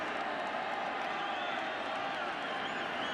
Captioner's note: crowd cheering